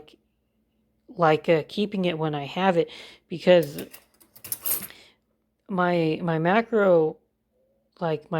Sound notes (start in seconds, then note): 3.6 clank